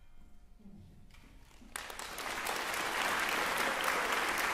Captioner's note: applause